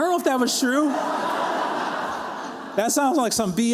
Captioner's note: laughter